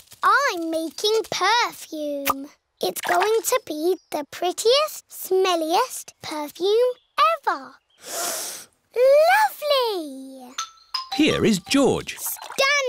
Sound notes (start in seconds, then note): 8.0 sniffs